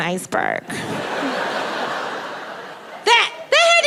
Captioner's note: audience laughing